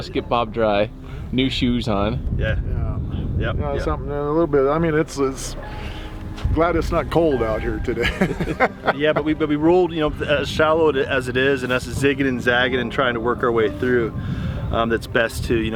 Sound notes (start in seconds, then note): 7.8 chuckles